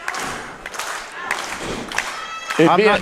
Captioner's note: crowd claps